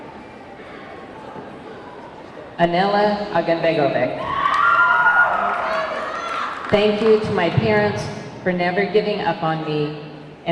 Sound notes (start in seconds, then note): 4.2 audience clamoring; 5.0 audience clapping